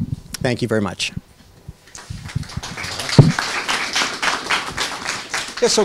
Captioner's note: applause